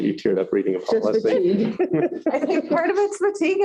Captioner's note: laughter